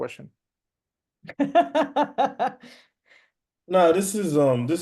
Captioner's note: laughs